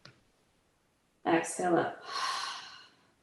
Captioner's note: exhales